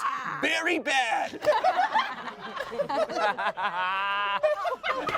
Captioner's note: everyone laughs